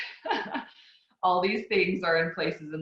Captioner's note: laughs